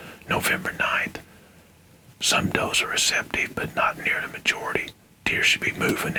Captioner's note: whispering